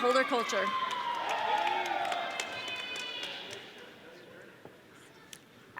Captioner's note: audience cheering